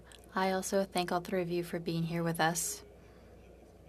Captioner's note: speaking French